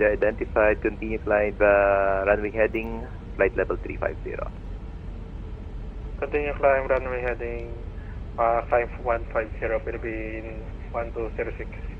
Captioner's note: atc chatter